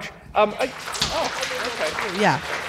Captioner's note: applause